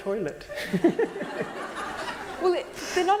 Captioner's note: laughter